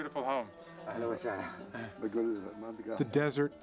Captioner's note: man responding in local language